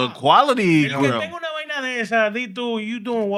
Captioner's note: speaking Spanish